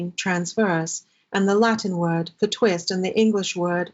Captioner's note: non-english speech